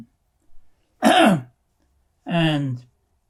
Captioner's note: clears throat